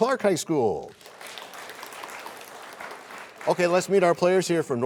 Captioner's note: applause